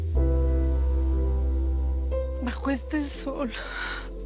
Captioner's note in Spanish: Sollozos